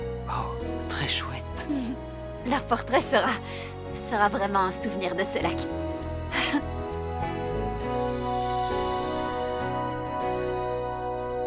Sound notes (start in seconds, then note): 6.3 chuckling; 8.6 soft music